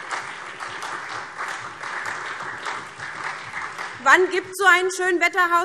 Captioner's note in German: Beifall SPD und Freie Demokraten